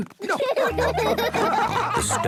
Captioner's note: laughing